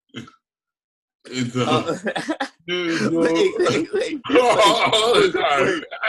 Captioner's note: laughing